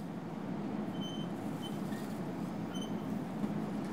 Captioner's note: metallic squeak